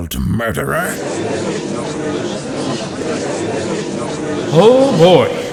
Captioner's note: gallery chattering